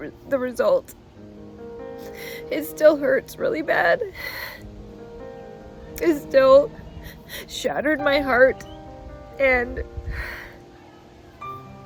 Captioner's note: sigh